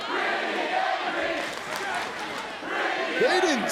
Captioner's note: audience clapping